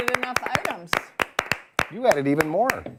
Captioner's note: applause